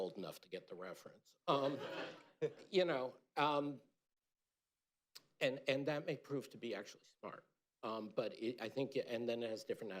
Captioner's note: laughter